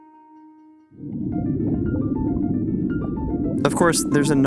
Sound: liquid bubbling

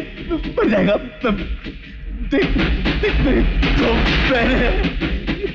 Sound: train rumbling

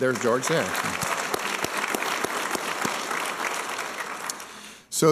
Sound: applause

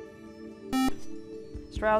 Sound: buzzer

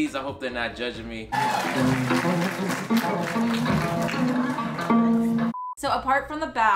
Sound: guests applaud and cheer; upbeat music

